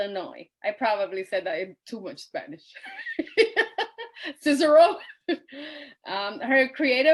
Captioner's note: laughs